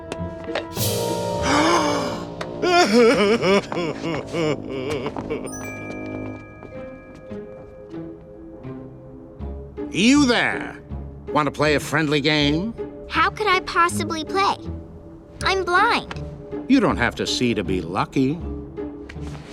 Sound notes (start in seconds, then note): 1.4 he gasps; 2.5 sobbing loudly